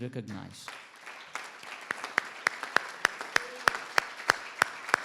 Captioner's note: everybody applauds